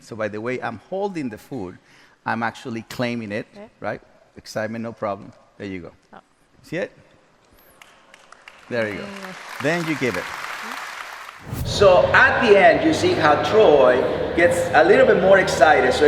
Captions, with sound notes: so by the way I'm holding the food I'm actually claiming it. Right? Excitement, no problem. There you go. See it? (audience applauds) There you go. Then you give it. (whooshing sound) - So at the end, you see how Troy gets a little bit more excited.